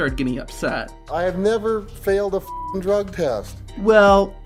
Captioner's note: beeping